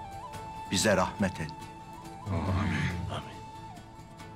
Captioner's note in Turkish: Hep bir ağızdan